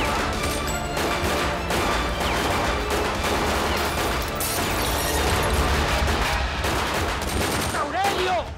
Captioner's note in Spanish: Disparos